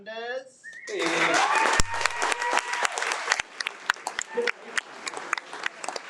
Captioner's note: audience cheers and applauds